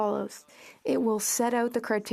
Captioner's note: speaking French